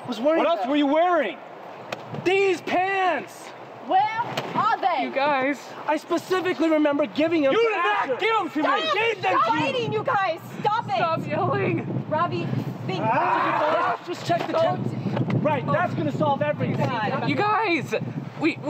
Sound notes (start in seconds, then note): 13.0 Asher screaming